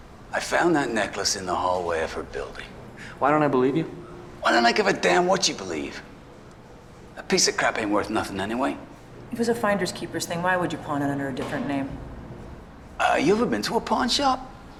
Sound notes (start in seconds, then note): none